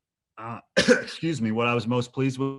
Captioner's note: coughs